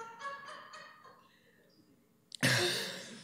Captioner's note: laughter